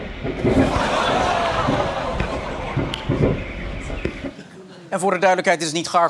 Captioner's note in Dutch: geknal